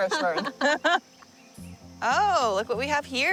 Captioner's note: laughs